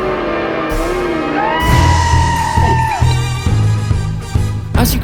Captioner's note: scream, finale soundtrack begins